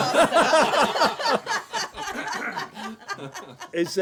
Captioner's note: laughter